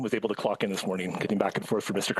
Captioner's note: speaking in French